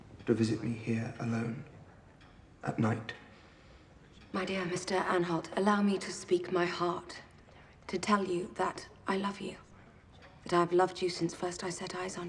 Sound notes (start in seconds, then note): none